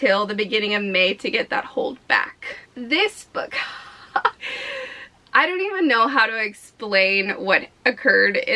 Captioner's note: chuckle